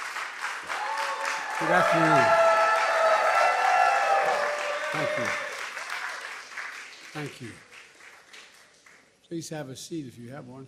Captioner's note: cheers and applause